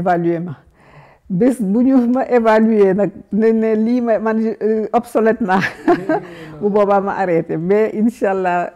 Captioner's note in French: rires